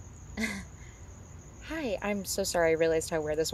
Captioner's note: sighs